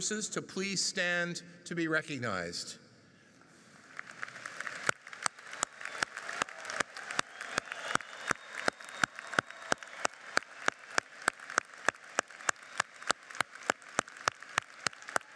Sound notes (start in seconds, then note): 3.7 audience cheers and applauds